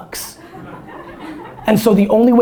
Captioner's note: audience laughter